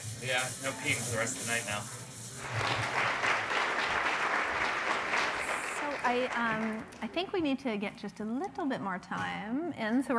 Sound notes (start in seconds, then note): 2.4 applause